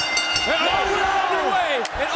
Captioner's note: bell ringing; crowd chatter